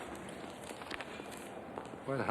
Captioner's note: paper crackling